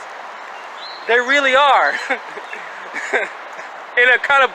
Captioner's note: chuckling